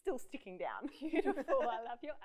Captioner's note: laughs